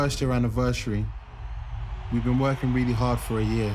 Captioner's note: crowd cheering